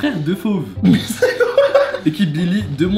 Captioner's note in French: rires